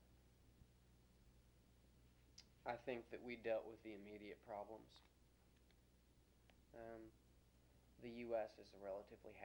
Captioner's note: pause